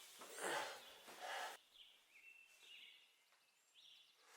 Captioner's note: birds chirping